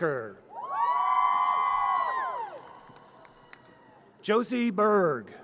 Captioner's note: audience cheers